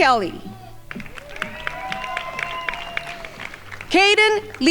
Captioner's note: crowd applauding